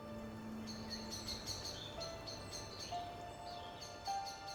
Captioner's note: soft piano music; birds singing